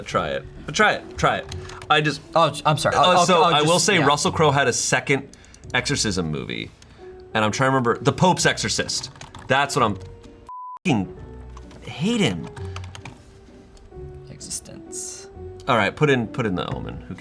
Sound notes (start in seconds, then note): 10.5 beep